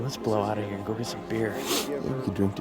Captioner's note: sighs